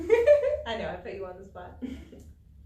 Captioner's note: all laugh